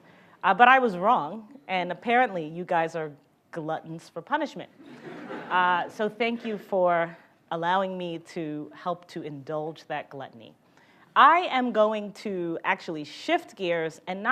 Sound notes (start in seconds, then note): 4.8 audience laughs